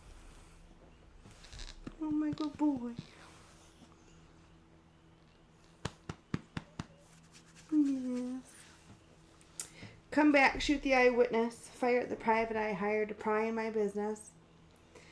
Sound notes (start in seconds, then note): 5.8 scratches